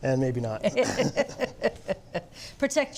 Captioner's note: both laugh